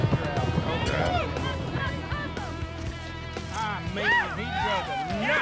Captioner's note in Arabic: هتاف